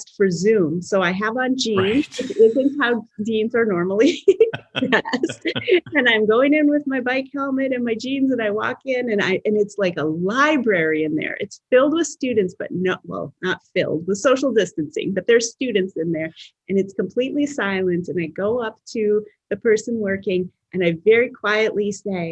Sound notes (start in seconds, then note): 4.4 laughs